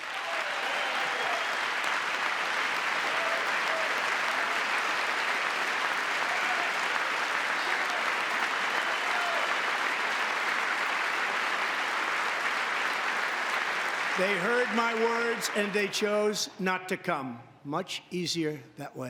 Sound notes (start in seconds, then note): 14.2 applause; 14.2 cheering